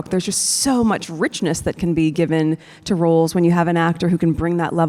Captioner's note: none